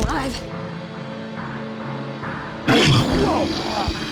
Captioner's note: growls